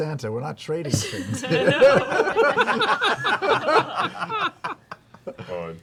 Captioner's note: laughter